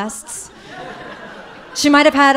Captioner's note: audience laughing